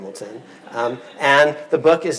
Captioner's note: audience laughing